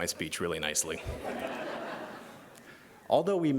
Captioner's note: laughter